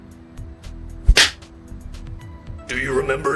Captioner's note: slap smacking